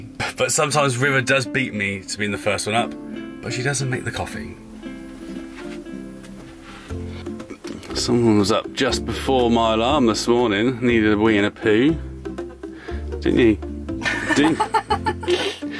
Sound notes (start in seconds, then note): 14.0 laughing